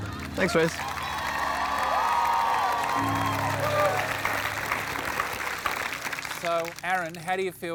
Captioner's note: cheering and applause